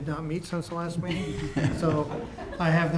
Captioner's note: laughter